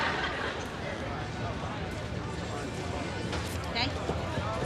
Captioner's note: people chattering